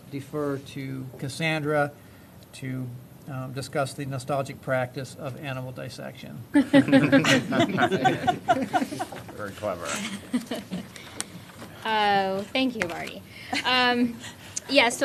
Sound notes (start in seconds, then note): 6.6 laughter